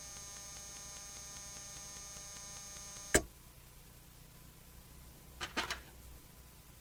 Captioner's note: static